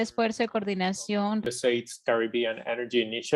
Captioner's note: foreign language spoken, 0:02:20